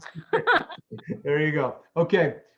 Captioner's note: laughs